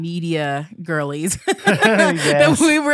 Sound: both laugh

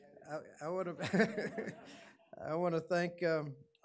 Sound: laughing

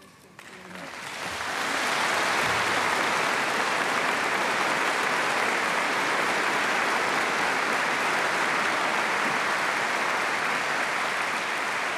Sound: applause

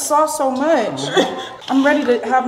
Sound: laughing

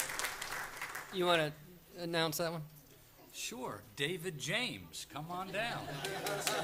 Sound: applause

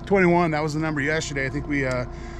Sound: tapping

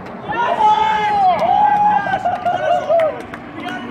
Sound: cheering

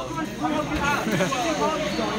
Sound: laughs

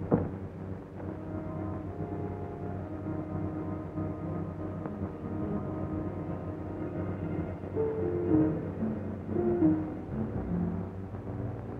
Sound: knocking

